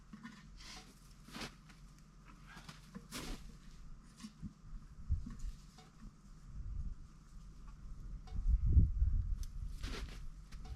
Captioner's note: footsteps